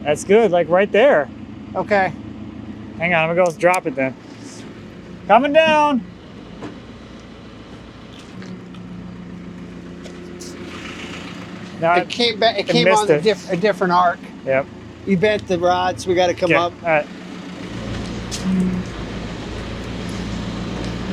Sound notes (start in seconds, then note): 7.6 engine humming; 17.9 engine humming